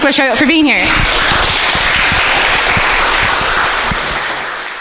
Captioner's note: audience applauding